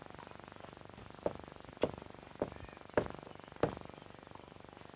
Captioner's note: tap, tap, tap, tap, tap